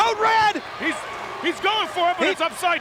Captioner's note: audience cheers